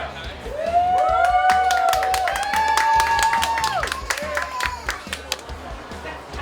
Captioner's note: cheering & Clapping